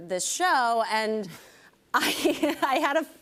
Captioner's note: chuckles